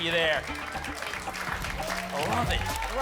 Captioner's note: applause and cheering